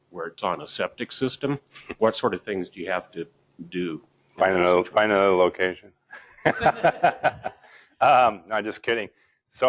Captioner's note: laugh